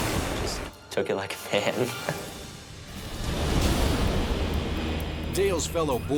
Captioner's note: chuckles